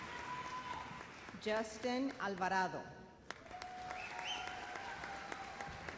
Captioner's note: applause